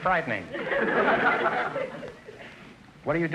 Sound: audience laughter

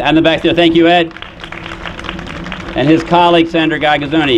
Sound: applause

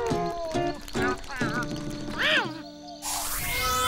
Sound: meowing

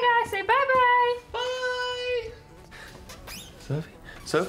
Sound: in a high pitched voice

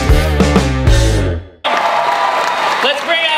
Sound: rock music; crowd cheering

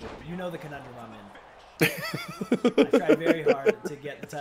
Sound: laugh

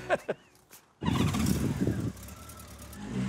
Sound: laugh; motorcycle starts up

